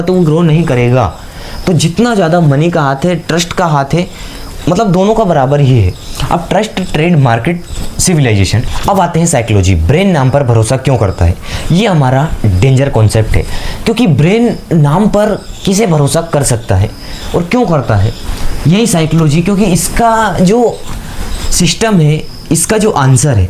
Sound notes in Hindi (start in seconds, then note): 8.0 नाक से की जाने वाली आवाज़